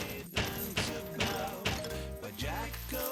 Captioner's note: tapping